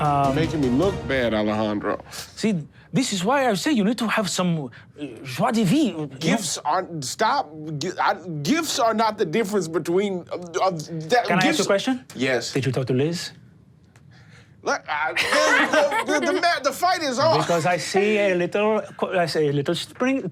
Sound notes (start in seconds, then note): 10.7 stutters; 15.1 all laugh